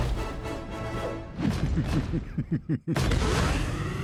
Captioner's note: laughs